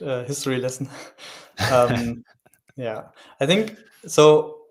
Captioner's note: chuckling